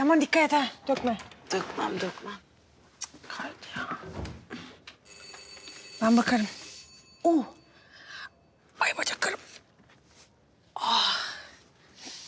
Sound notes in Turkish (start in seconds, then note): 5.0 Kapı zili sesi